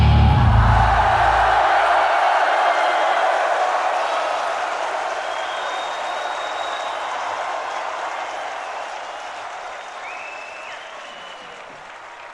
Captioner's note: applause